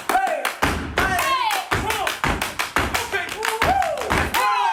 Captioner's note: dancers exclaiming